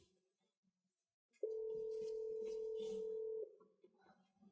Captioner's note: phone rings